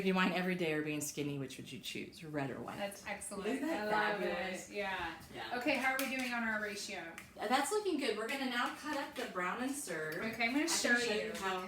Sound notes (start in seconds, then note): none